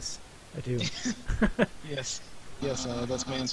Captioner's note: laughing together